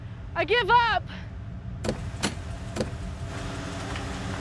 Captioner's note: doors opening; suspenseful music